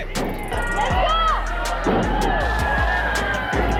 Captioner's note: crowd cheering